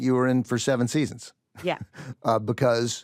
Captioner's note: chuckles